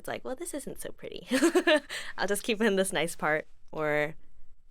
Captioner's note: chuckles